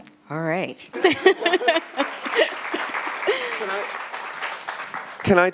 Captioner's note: attendees laughing and clapping